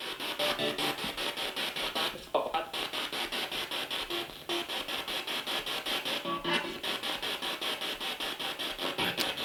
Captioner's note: sound of the Spirit Box in the background